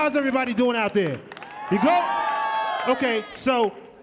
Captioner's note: audience cheering